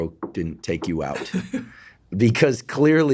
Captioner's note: Robert laughs